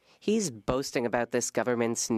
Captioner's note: speaking French